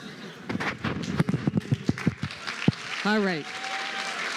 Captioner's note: applause, cheering